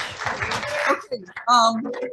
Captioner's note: audience applauding